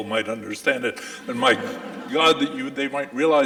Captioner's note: audience laughing